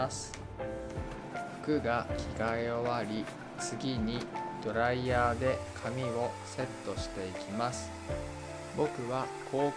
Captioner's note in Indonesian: hairdryer